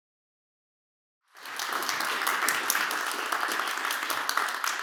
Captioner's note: applause